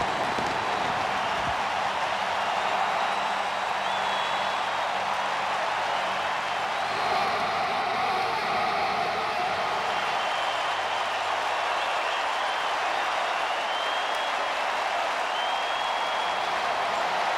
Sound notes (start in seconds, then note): 0.1 applause; 2.5 cheering and Applause; 5.6 fireworks exploding; 8.3 cheering and Applause